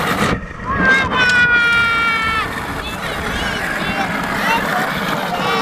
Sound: yelling

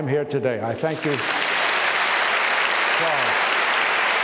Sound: applause

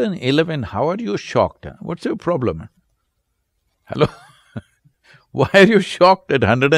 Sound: laughs

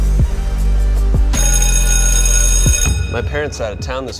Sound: ominous techno music; school bell ringing

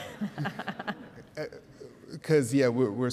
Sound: laughing

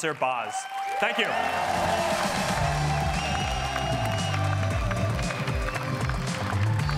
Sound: cheering

